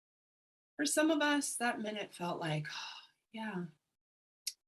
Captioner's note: breathes